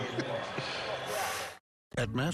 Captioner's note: laughing